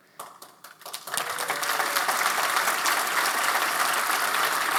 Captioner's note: applause